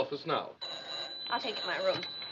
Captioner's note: telephone rings